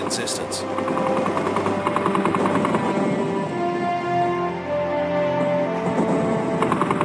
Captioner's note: slow music; artillery firing